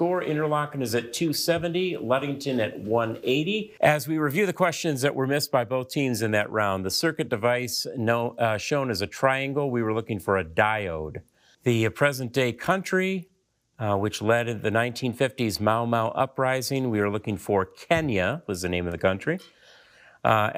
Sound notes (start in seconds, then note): none